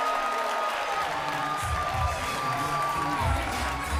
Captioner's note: crowd cheering